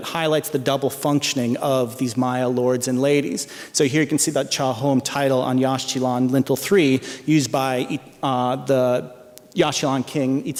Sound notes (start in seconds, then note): 4.7 non-english speech